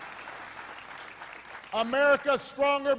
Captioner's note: applause